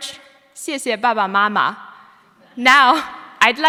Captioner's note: speaking foreign language